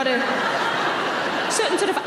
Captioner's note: audience laughing